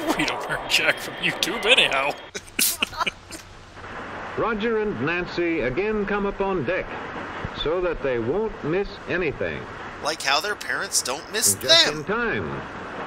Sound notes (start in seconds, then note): 2.0 still laughing; 2.3 both chuckle immaturely because we are ten years old mentally